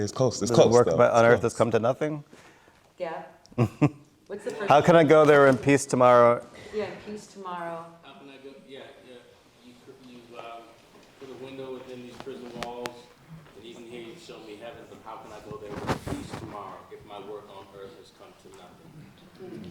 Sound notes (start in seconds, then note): 3.6 laughs